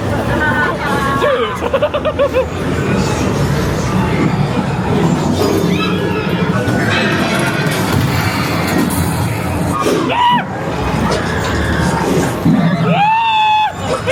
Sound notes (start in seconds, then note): 0.0 guests laughing; 0.0 laughs; 2.8 spooky music; 6.1 guests screaming; 10.2 screaming; 10.2 spooky music